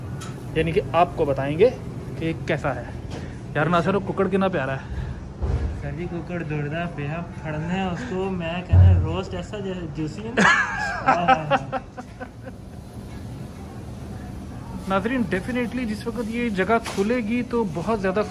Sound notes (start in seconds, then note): 10.9 laughs